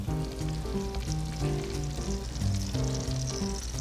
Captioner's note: sizzling